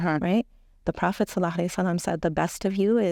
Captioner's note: speaking Arabic